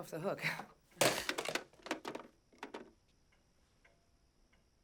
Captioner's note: phone bangs